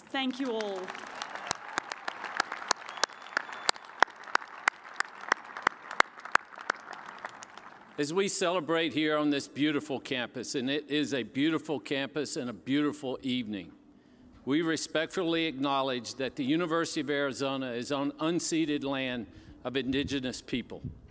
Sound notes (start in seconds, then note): 4.5 cheers and applause